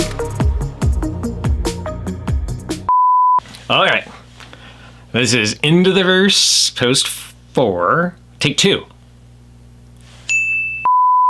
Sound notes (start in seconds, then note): 0.0 upbeat Music; 2.9 beep; 10.3 ding; 10.3 beep